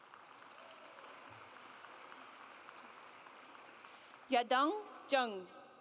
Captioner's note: audience applauds